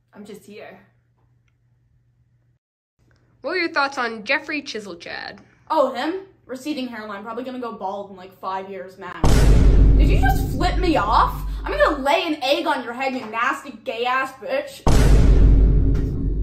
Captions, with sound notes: I'm just here what were your thoughts on Jeffrey Chiselchad? oh him? receding hairline probably going to go bald in like 5 years max. *Vine boom sound effect* did you just flip me off?! I'm going to lay an egg on your head you nasty gay ass bitch *Vine boom sound effect*